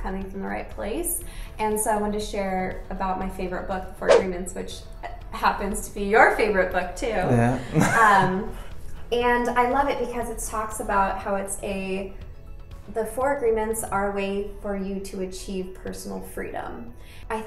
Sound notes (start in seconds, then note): 7.2 laughs